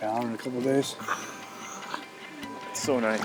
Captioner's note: hissing